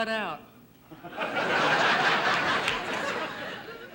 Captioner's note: audience laughing